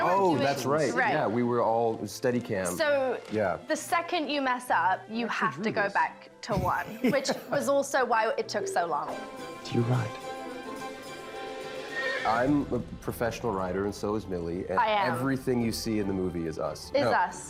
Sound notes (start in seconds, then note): 10.7 energetic music; 11.8 horse whinnying